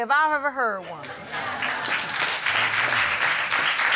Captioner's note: applause